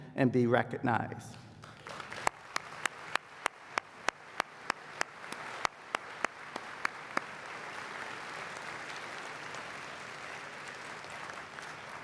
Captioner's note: applause